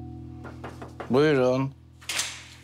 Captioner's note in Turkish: Kapı vuruluyor